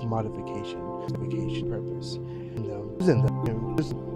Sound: audio skips

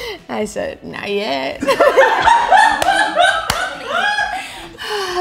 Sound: all laughing

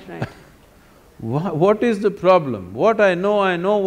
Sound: laughs

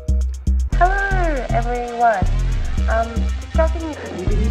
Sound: on phone

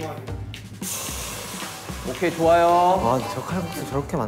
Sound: sizzling

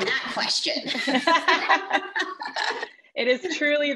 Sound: laughs

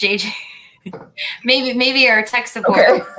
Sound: laughter

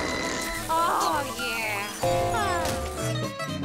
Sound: sighing

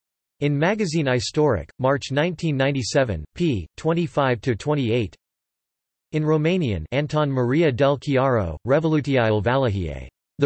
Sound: in Romanian

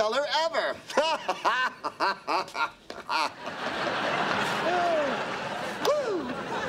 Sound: laughing

